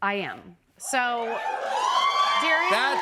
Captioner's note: cheers and applause